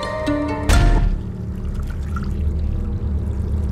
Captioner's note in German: leises Plätschern